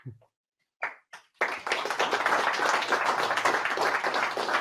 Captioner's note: audience applauds